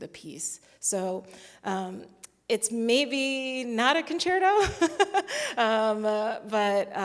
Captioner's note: chuckles